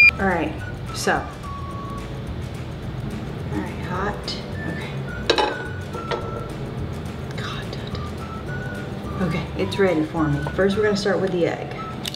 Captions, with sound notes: Okay, so. Hot. (clanking) Okay. It's really hot. Okay first we're gonna start with the egg.